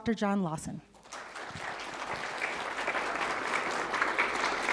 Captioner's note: applause